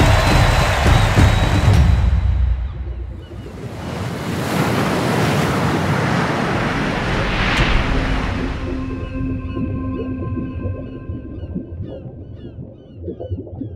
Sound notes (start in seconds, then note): 0.0 rhythmic percussion music; 3.0 seabirds squawking; 3.0 waves crashing; 7.5 water bubbling